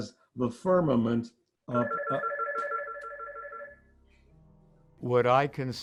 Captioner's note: phone ringing